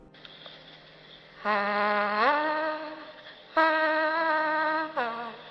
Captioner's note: vocalist humming